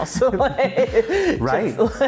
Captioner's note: laughing